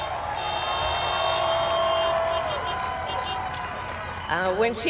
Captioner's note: cheers